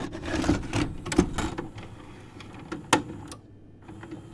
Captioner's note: vintage tape rolling